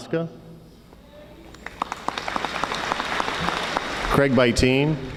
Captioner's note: audience applauding